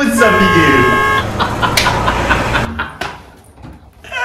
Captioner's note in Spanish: risas